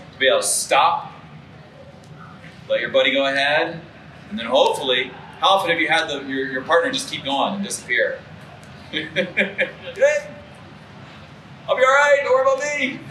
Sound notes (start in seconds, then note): 8.8 laughs